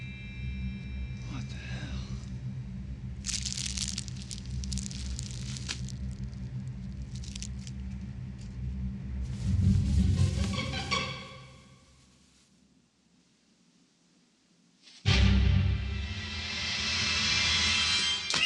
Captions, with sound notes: What the hell? (crunches) (ominous music) (dramatic music)